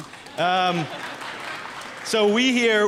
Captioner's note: applause